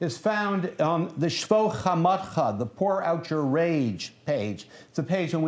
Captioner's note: non-english speech